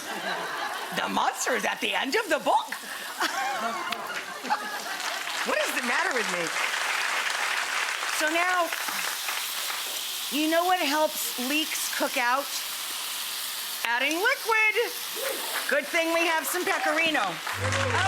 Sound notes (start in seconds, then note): 0.0 audience laughing; 3.0 laughing; 3.8 audience clapping; 17.1 audience clapping